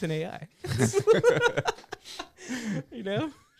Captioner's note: laughter